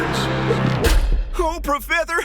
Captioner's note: door slam